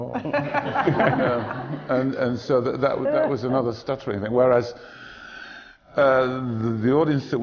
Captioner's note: laughter